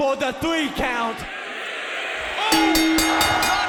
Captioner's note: audience cheering; bell rings